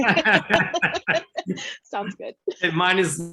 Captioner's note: everyone laughs